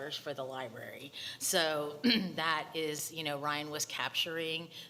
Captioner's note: clears throat